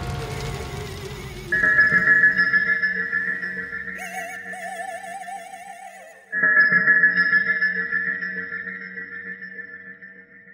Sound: bell rings

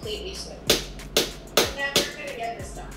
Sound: counter pounding

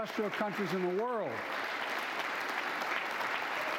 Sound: applause

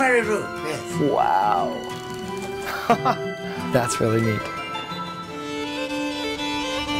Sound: laughs

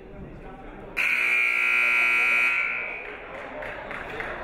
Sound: buzzer buzzes

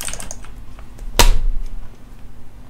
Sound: thump

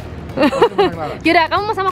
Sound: chuckled

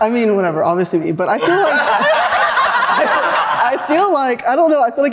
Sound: group laughing

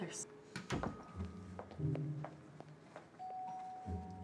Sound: door clicking shut

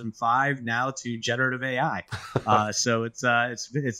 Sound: laughs

